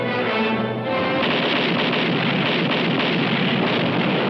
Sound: cannons firing

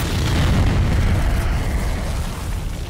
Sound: howling

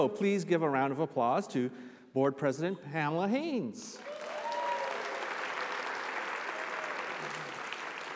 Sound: applause

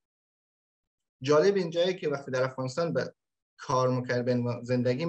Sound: speaks in Dari

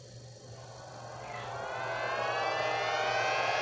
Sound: deep Note Rising

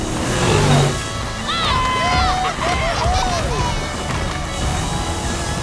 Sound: cheering

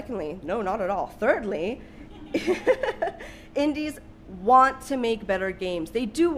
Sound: laughs

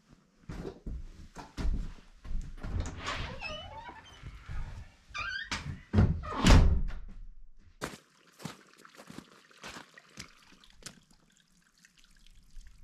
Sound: water running

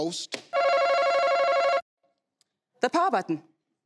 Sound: buzzer beeping

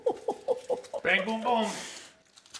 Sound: laughs

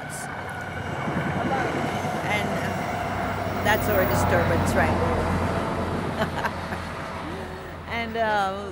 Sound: train

